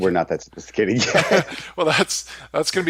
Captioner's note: laughing